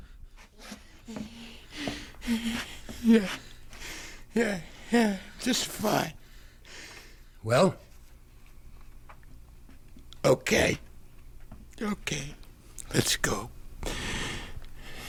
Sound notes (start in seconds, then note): 2.8 breathing heavily